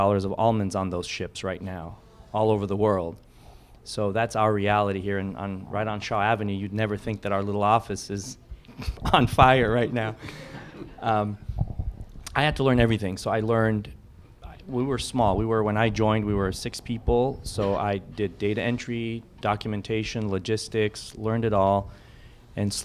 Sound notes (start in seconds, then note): 10.2 laughter